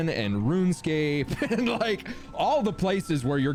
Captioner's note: laughing